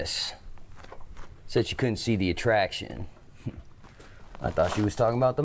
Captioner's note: scoffs